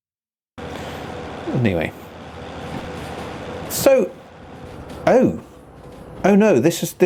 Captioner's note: protesting noises